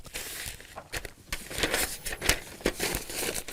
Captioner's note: rustling paper